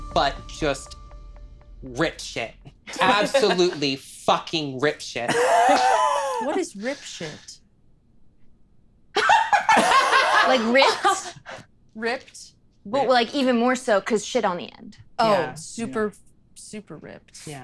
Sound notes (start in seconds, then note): 5.3 laughing; 9.1 all laughing